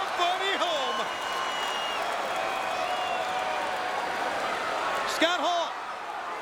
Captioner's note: applause